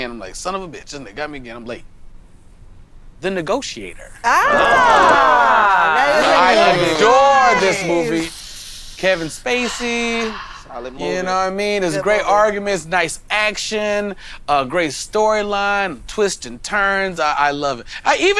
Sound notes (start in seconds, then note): 4.2 all exclaiming